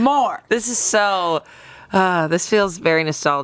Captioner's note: sighs